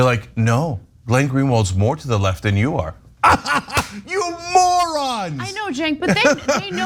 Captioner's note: laugh